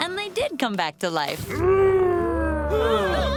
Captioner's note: groaning; frightened gasps